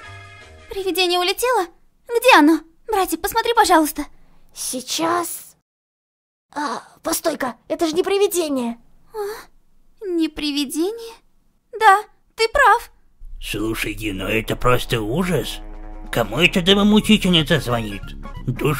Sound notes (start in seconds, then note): 5.3 surprised; 8.7 breathed in relief